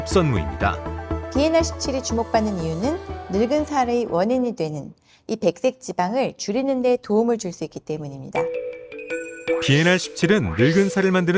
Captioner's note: voiceover